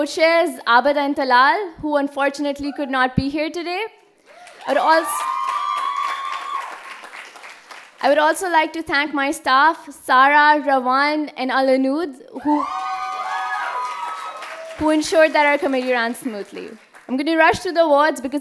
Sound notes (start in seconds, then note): 4.3 cheers; 12.4 cheers